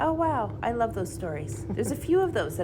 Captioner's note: chuckles